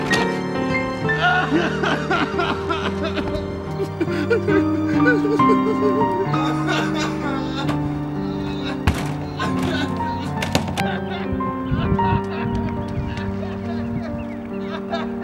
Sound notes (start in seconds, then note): 0.2 howling; 4.1 blubbering; 11.1 distantly bewailing